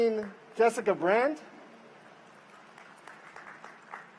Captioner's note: applause